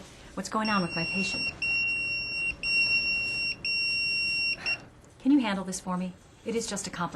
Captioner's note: pager goes off